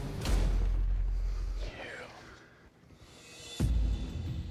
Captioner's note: whispering